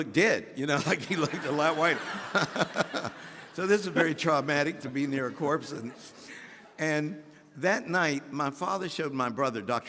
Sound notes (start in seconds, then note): 2.4 audience laughing; 3.3 laughing